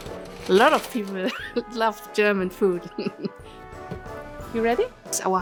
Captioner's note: chuckles